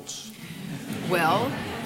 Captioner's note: laughter